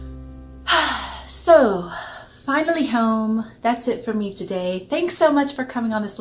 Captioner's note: sighs